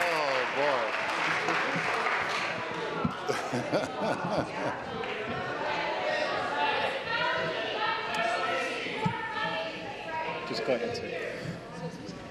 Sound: applause

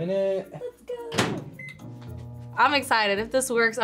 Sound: microwave beeps

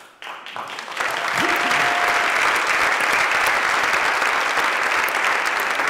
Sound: applause

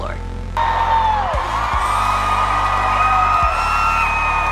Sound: crowd cheering

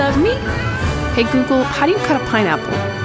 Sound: voice of a woman

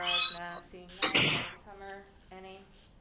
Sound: banging

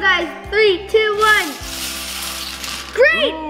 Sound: balls rattling

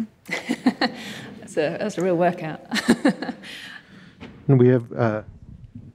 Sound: laughs

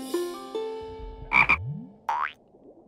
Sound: ribbit

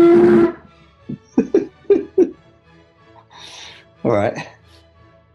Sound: giggling

